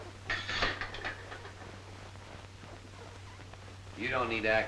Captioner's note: metal clanging